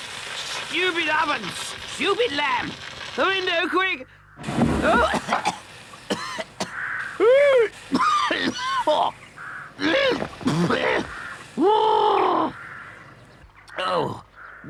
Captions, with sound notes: Stupid oven, stupid lamb! The window, quick! [Toad coughs] Oh.